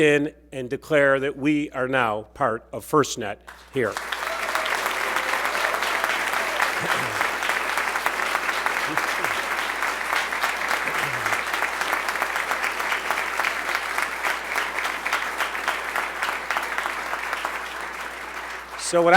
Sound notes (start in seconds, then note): 3.4 applause